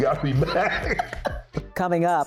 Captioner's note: laughing